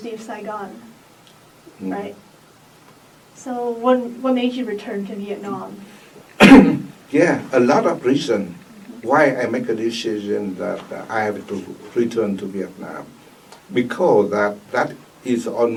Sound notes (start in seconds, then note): 6.3 coughs